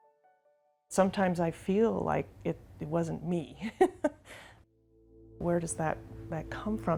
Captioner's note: laughter